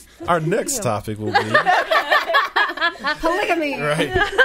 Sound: all laughing

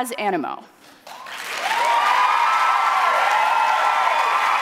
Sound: audience cheering

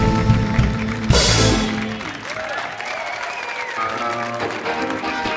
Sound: audience applauds; uplifting music

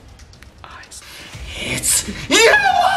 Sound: whispers

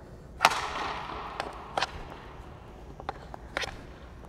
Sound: hits pucks

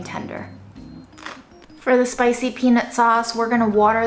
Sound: cucumber crunching

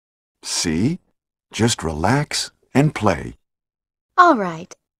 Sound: none

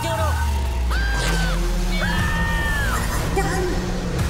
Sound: screaming

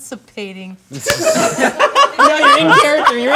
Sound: group laughing

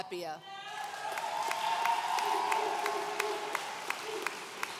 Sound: audience cheering

